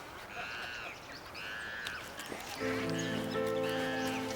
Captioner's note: monkeys shrieking